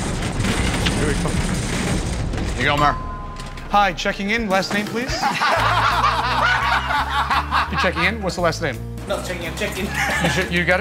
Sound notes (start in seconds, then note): 2.8 elevator bell dings; 5.1 laughter